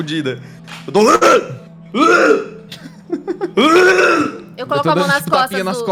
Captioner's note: blurgh